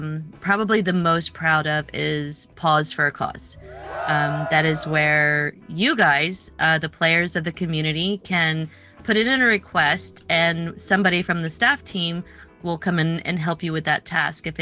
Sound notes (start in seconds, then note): 3.5 cheering